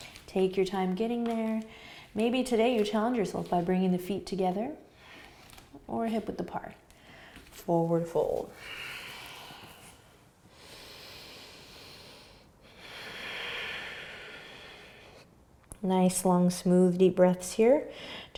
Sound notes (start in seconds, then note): 8.7 deep breathing